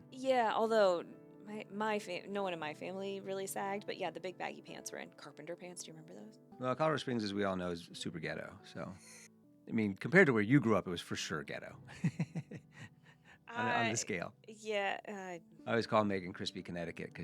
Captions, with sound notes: Yeah, although my, no one in my family really sagged, but yeah, the big baggy pants were in carpenter pants. Do you remember those? Well, Carver Springs, as we all know, is Superghetto, so. I mean, compared to where you grew up, it was for sure ghetto. (laughs) On the scale. Yeah. I always call Megan Crispy Connecticut